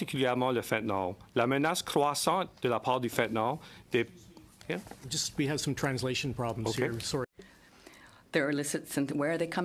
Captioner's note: speaking in French